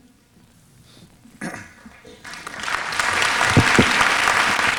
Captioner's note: applause